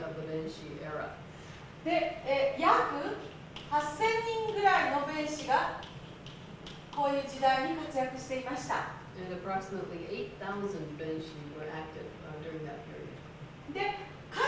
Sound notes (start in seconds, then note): 2.6 speaking Japanes